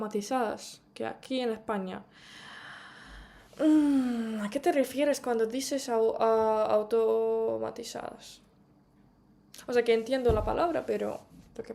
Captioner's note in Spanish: suspiro